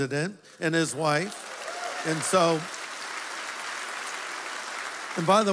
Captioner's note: applause